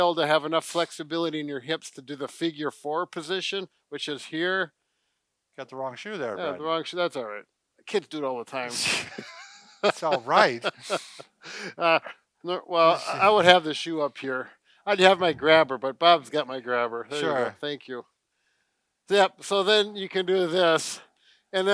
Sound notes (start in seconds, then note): 8.8 both laughing